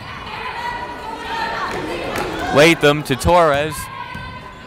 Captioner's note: yelling